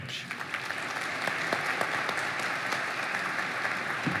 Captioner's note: applause